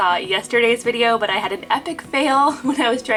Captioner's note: laughing